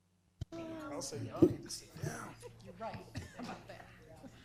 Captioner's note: group chatter